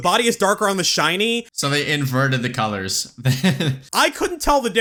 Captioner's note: laughs